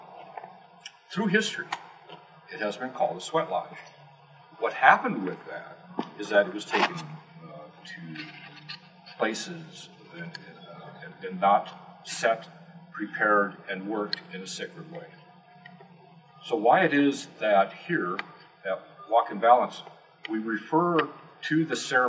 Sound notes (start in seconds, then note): none